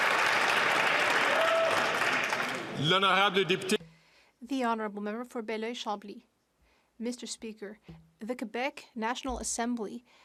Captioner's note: some Applause